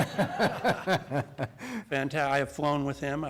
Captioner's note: laughter